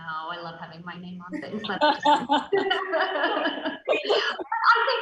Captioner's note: loud laughs